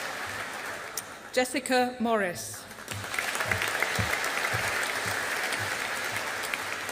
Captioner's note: audience applauding